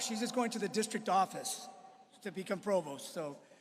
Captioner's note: applause